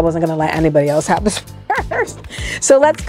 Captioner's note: laughs